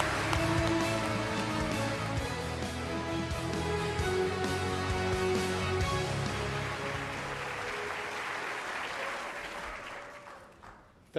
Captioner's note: applause